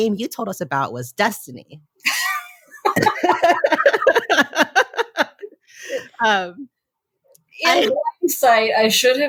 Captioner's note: all laugh